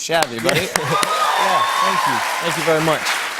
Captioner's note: cheers and applause